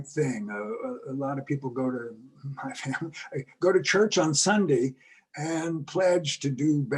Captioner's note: laugh